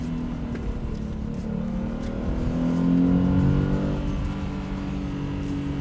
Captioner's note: boxer engine revving up